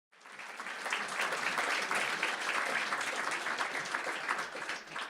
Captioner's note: clapping